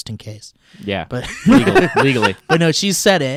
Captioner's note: laughing